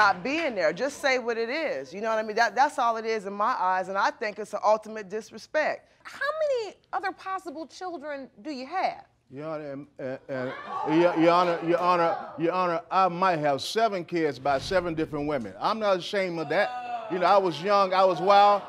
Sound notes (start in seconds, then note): 9.1 stuttering; 17.6 audience member boos